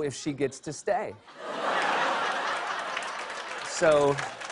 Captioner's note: laughter